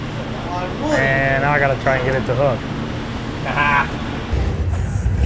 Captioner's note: laughs